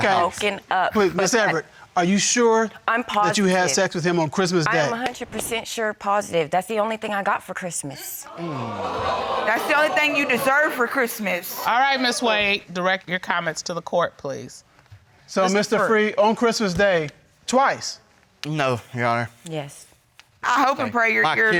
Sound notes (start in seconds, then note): 8.2 audience reacts